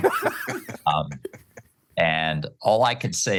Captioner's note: laughter